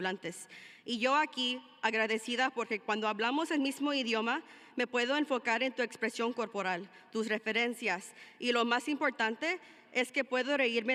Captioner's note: speaking in spanish